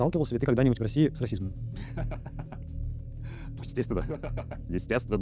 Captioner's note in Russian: смеется